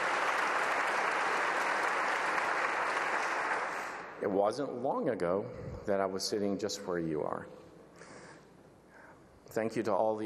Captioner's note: applause